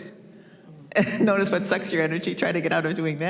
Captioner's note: chuckles